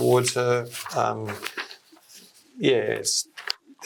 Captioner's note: paper flapping